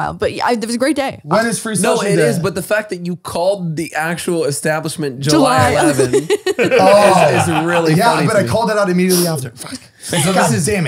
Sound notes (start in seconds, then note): 5.4 laughs